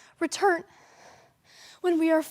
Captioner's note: heavy breathing